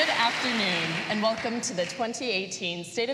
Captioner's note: applause